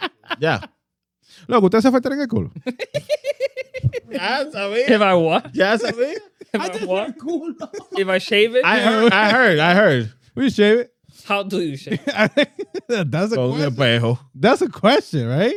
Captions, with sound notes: (Laughing) (Speaking In Foreign Language) If I what? (Speaking In Foreign Language) If I shave it? I heard, I heard, we shave it. How do you shave it? (Laughing) That's a question, that's a question, right?